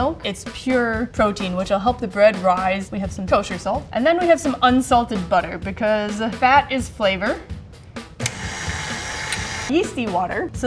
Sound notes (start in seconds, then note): 8.2 mixer buzzing